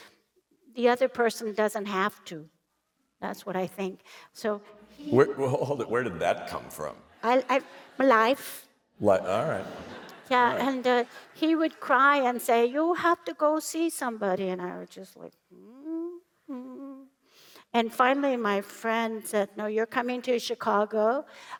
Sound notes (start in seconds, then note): 9.2 laughter